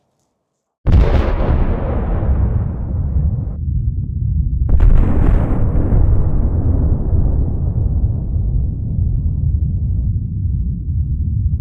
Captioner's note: sounds of nuclear explosions